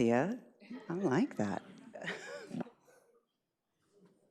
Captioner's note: chuckles